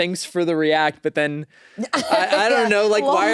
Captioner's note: laughs